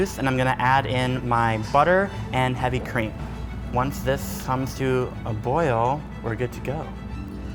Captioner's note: none